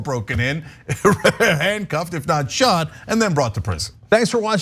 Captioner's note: laugh